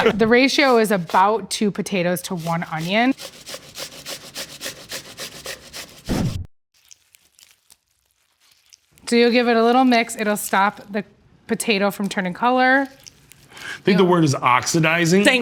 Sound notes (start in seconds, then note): 2.1 potato scratching; 6.8 mixture squishing